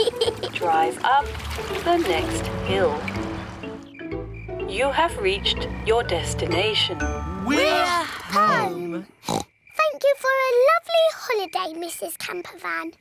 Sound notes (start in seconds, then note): 9.2 oinks